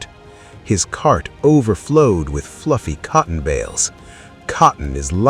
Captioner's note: Voice shifts - cocky Kofi